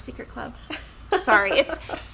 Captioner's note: laughing